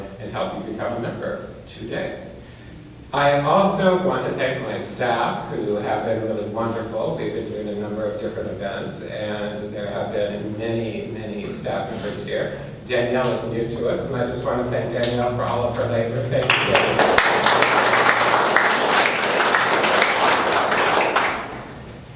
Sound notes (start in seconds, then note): 16.4 applause